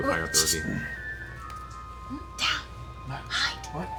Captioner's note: shushes